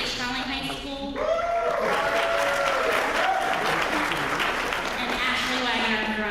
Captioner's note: applause